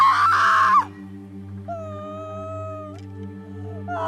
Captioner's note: crying